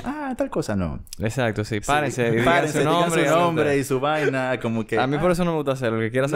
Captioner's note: laughs